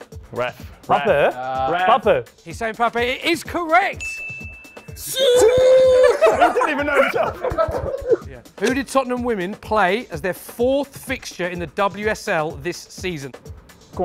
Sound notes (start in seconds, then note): 5.2 cheering